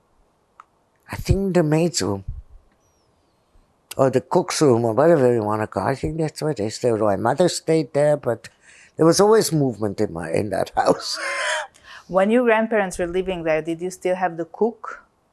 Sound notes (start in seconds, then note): 10.7 laughing